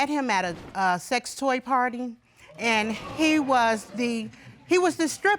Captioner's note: audience gasps